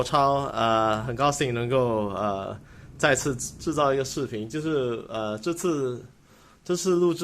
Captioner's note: in Mandarin Chinese